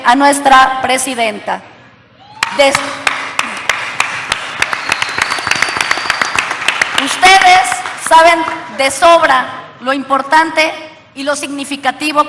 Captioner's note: applause